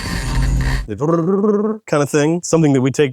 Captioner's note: imitates audio buzzing